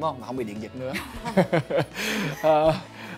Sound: laugh

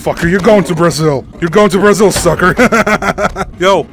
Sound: evil laugh

